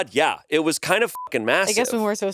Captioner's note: beep